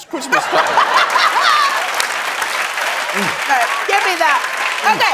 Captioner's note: applause